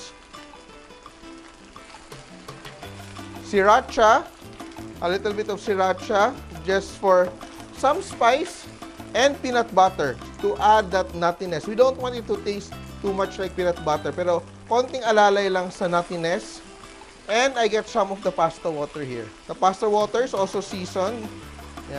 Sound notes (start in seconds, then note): 0.2 sizzle